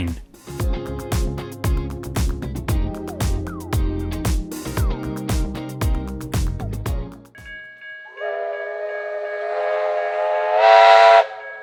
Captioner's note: steam train whistle